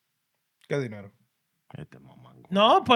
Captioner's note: non-english Speech